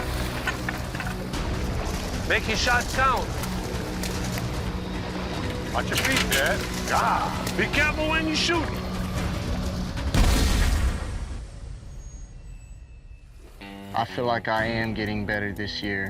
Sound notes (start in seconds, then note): 10.1 gunshot